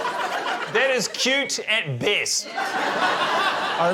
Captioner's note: laughter